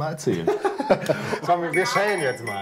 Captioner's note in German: Beide lachen